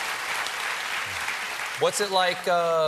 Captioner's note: applause